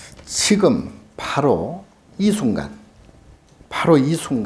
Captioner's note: speaking Korean